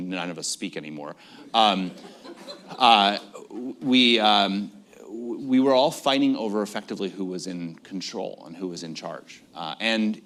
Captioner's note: laughter